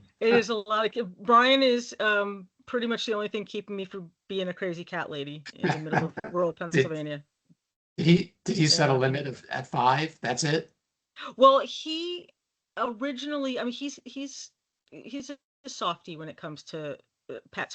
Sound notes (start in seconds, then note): 5.5 laughing